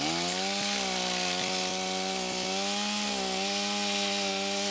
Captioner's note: chainsaw grinding